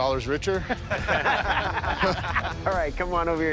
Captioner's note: laughter